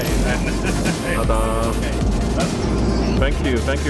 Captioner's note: laughs